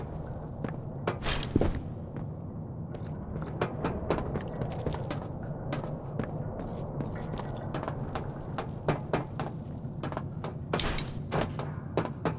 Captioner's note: gunfire